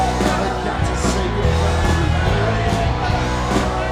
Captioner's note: lively music; audience cheering